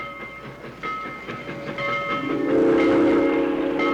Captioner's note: train horn sounds